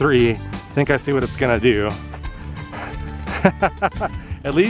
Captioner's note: laughter